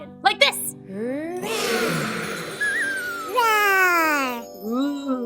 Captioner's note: roars